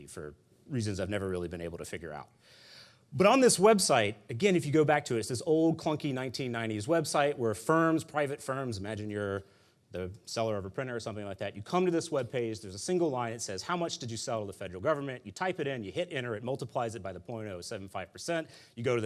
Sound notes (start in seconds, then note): none